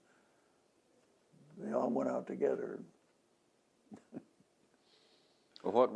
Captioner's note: laughs